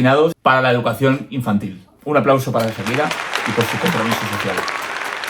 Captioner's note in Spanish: aplausos